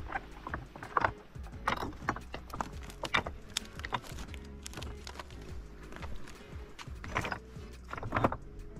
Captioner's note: sound of walking on large stones